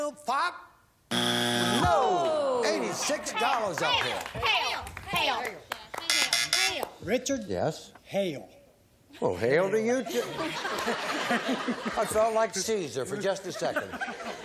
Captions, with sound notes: If not, Uncle Bill, get ready to steal. Fire! (buzzer) No! -Eighty-six dollars up there. -Hail! Hail! -Richard? -Yes. -Hail. -Well, hail to you, too.